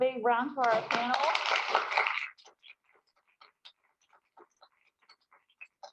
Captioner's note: applause